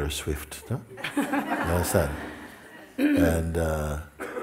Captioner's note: laughter